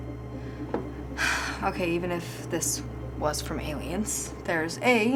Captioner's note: sighs